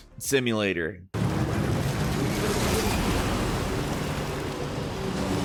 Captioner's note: monster roaring